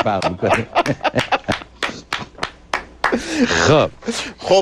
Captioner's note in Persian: خنده و تشویق; تشویق